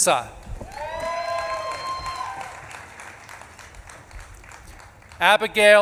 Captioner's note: audience claps and cheers